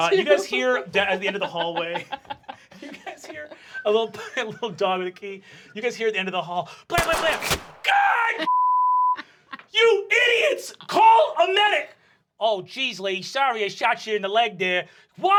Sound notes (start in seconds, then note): 8.4 beep